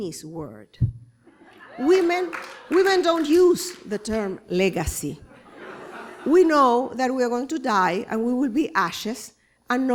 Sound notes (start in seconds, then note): 1.6 cheers and claps; 5.3 laughter